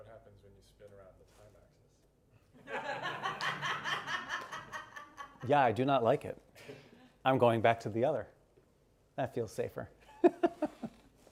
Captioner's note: laughter